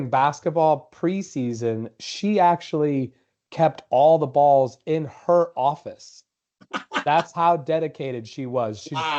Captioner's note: laughter